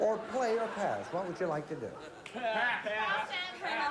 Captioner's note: all shouting "pass!"